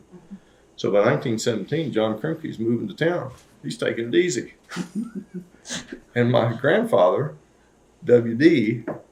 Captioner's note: laughter